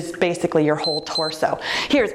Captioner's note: timer beeps